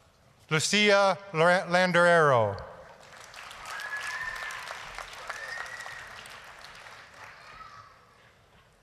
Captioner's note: applause, cheering